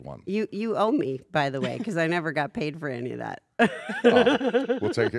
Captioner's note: laugh